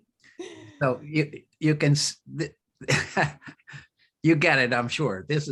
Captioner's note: laughs